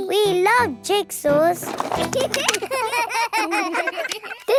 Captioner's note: laughter